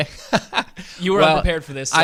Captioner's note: laughs